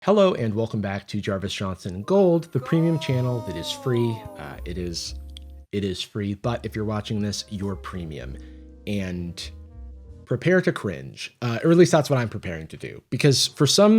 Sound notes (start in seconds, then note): 2.5 disembodied voice